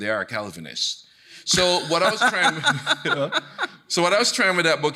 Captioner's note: laughing